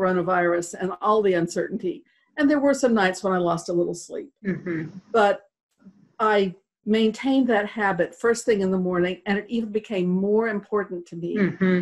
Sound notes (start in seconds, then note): 4.4 um hmm